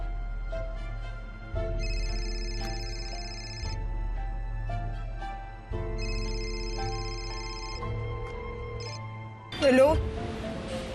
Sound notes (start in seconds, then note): 1.8 cell phone ringing